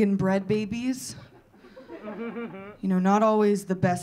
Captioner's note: audience laughing